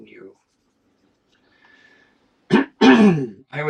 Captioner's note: silence